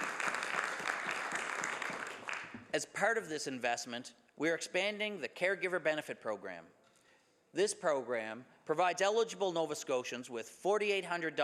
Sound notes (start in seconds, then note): 2.1 some Applause